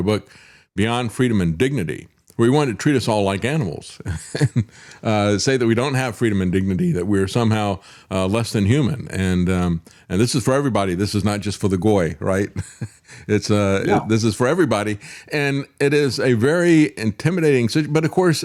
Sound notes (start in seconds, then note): 4.9 laughs